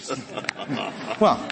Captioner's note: laughter